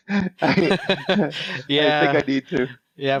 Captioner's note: laughs